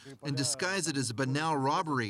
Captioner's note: speaking russian